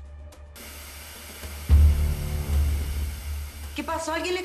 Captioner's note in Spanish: Sonido al perder la transmisión